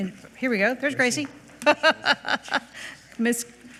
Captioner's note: laughs